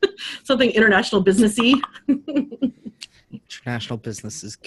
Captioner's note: chuckles; chuckles